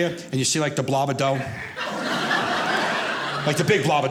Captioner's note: audience laughing